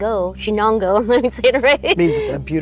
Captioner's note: laughs